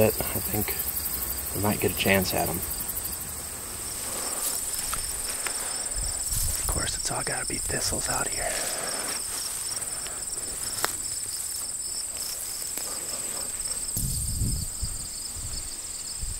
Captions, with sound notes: I think I might get a chance at him. Of course it's all gotta be thistles out here. [Crickets chirping]